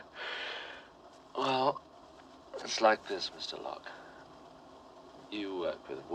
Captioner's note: laughing